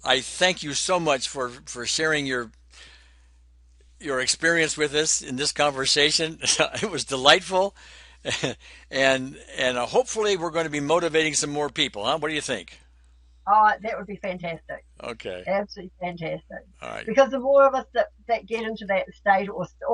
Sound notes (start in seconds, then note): 8.2 chuckles